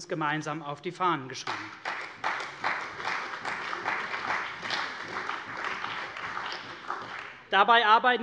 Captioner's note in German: Beifall bei der CDU und dem BÜNDNIS 90/DIE GRÜNEN